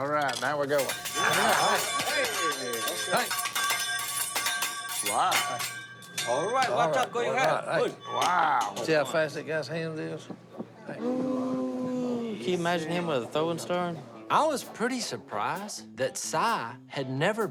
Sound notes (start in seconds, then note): 0.1 utensils rattling; 6.2 speaking japanese